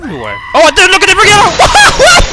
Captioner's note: aaaaaaaaahhhhhhhh!!!!!!!